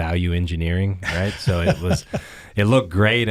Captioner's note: laughing